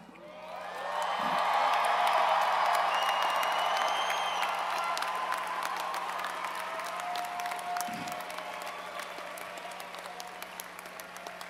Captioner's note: applause